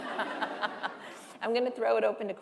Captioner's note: laughter